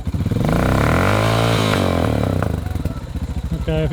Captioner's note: revs Bike